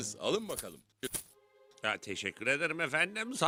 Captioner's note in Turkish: Altın şıngırtısı